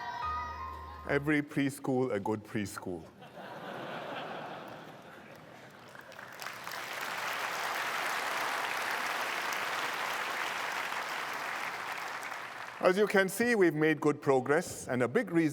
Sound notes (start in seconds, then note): 3.2 laughter and applause